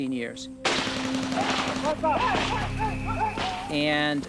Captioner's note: gunfire